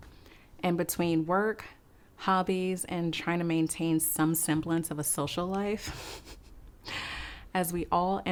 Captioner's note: chuckles